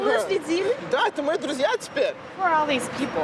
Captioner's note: speaking russian